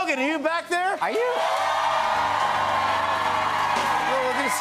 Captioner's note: cheers and applause